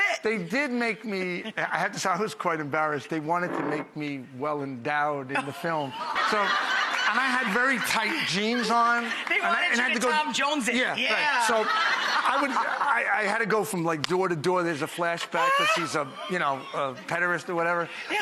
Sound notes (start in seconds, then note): 5.4 audience laughs; 11.3 laughs